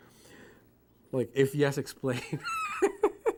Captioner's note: laughing